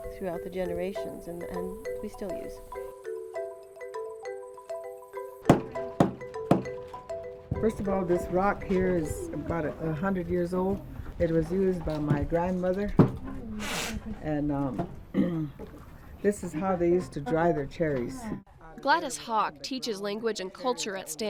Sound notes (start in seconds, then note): 2.5 upbeat music; 5.3 grinding berries